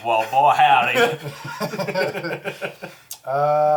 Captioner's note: all laugh